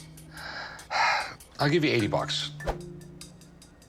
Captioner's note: sighs